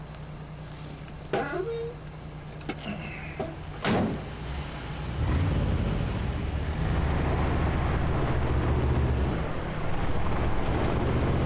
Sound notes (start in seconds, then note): 1.3 door creaks; 6.4 engine revs